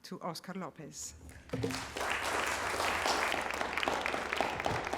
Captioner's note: applause